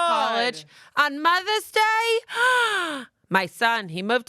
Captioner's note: gasps